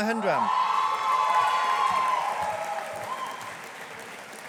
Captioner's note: audience applauding